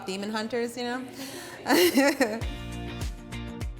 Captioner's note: laughing